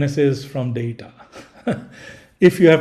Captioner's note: laughing